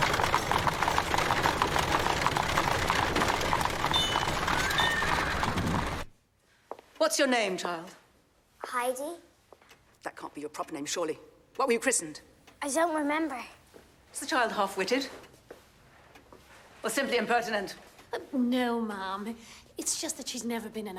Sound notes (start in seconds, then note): 2.4 carriage rattling; 3.8 horse neighing